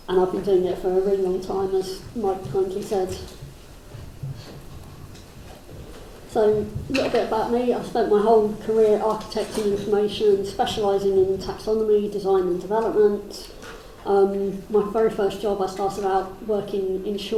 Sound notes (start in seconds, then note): none